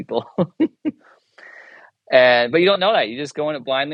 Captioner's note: chuckles